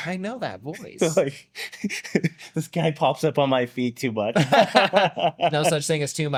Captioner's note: laughs